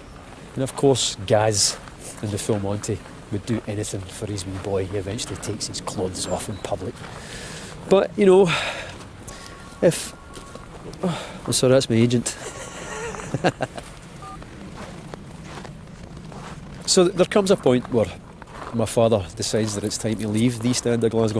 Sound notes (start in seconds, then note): 12.3 lovely laugh:P